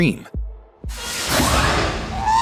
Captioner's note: R2 screams